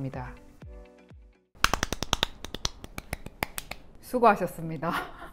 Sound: clap clap clap clap clap clap clap clap

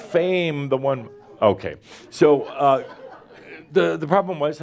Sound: more chuckles

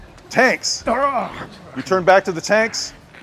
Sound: grunts

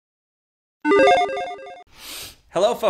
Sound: logo beeping

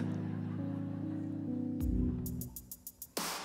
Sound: audience laughter

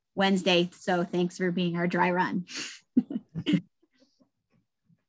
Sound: laughs

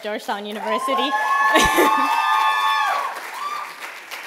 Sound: cheering

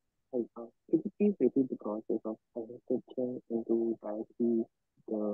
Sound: speaking faintly

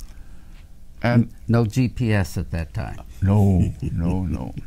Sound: laughs

